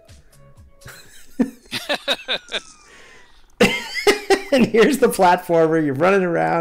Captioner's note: laughter